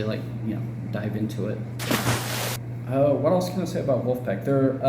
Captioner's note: splash